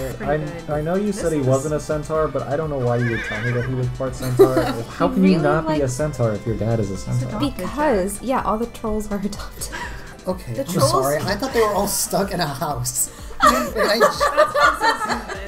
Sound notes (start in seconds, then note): 9.4 laugh; 13.4 laugh